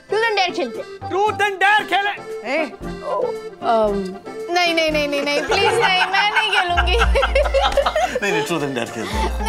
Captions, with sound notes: Let's play Truth and Dare. - Let's play Truth and Dare! - Hey! Umm... No! Please, I won't play! [everyone laughing together] No, let's play Truth and Dare.